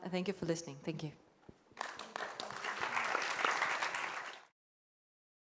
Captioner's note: applause